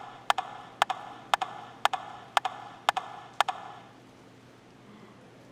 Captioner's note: rhythmic tapping